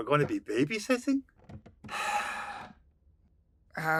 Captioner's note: sighs